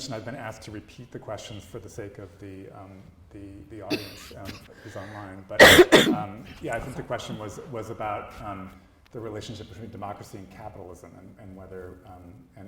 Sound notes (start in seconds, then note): 5.6 coughs